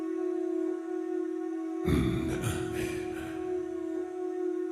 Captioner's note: grunt